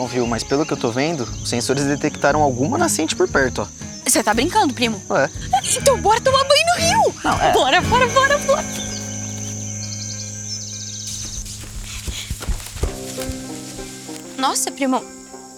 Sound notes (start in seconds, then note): 8.8 birds; 11.0 dry ground noises